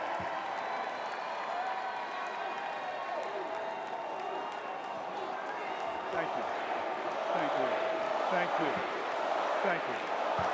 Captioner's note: cheers and applause